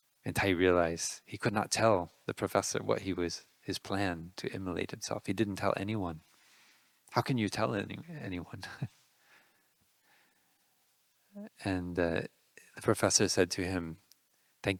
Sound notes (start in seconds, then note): 8.5 laughing